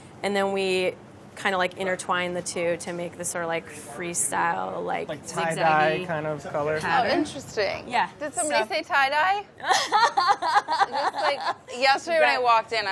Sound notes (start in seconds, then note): 9.6 laughing